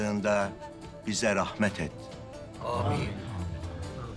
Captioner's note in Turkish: Hep bir ağızdan